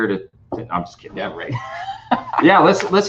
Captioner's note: laughing